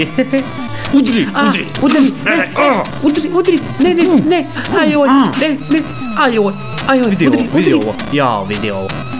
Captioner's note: both are randomly grunting the heat of the fight